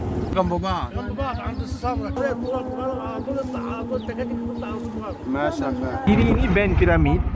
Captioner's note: speaking Arabic